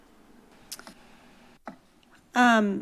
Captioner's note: smacks lips